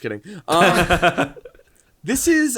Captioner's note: all laughing